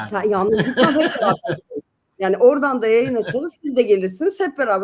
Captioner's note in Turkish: kahkaha